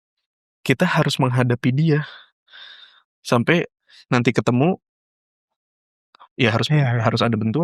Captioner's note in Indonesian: terkesiap